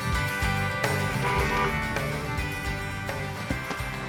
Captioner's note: honks horn